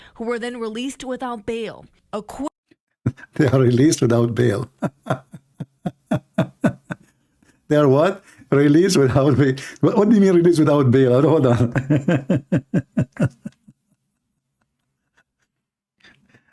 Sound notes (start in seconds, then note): 11.4 Ketawa